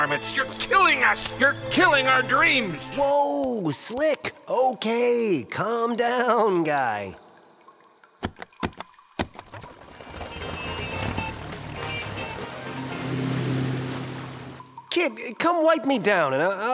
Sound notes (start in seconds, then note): 7.8 stamping seal rapidly; 10.0 boat engine revving; 10.5 upbeat music